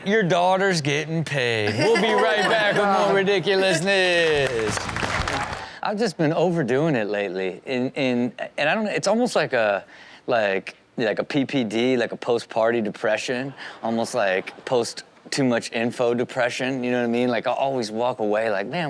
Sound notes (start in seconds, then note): 4.9 audience applauds